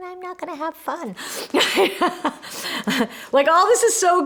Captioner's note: laughs